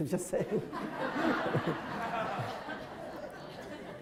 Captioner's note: crowd laughter